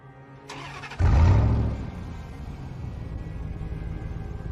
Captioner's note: car engine starts